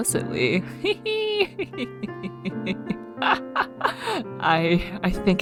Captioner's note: laughs